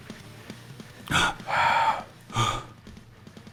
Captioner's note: panting